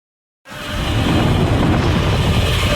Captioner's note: roars